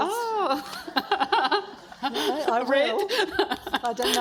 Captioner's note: laughs